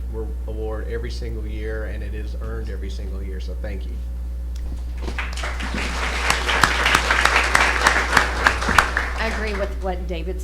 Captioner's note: applause